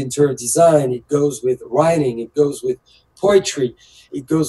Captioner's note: speaks French